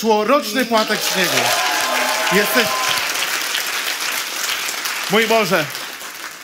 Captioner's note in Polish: oklaski